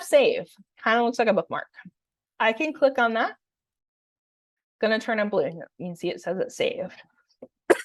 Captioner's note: cough